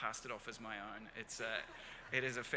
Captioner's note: crowd laughs